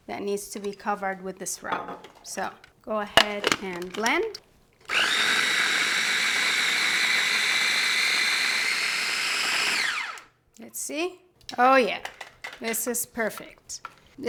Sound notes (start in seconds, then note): 4.8 blender whirring